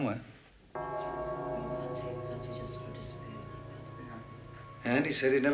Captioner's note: clock bell chimes; Robert and Eve chatting